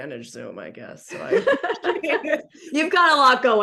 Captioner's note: laughter